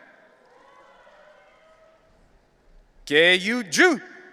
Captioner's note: audience cheering